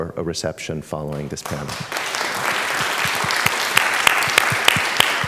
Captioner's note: applause